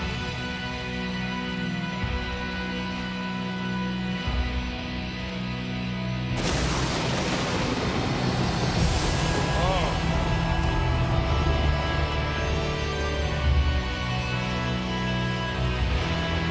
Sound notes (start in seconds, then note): 1.9 haunting music; 6.3 lightning crashes; 11.3 haunting music